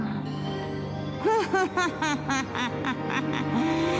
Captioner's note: cackling